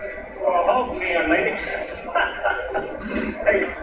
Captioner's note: laughs